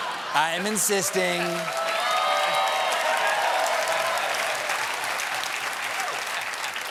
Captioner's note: cheers and applause